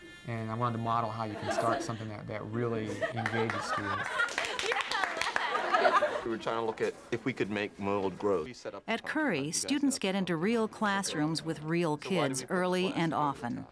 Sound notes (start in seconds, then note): 3.1 applause, laughter